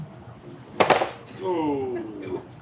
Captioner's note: packet clatters